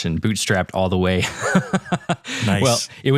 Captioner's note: laugh